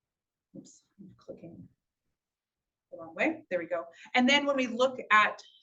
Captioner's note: talking quietly; talking normal